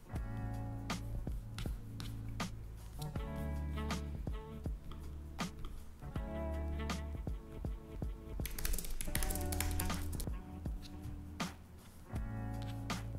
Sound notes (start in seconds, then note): 8.4 keyboard clicking